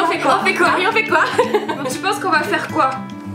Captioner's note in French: rires